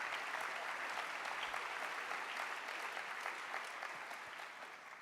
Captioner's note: applause